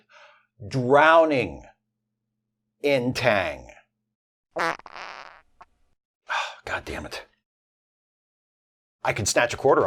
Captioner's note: farts